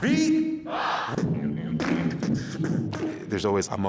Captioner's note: beatboxing